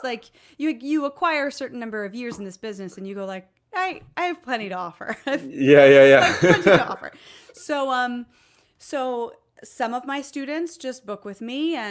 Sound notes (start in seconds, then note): 5.3 laughs